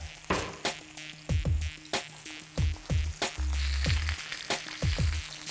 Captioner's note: steaks sizzling